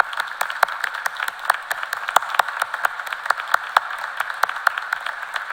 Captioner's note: applause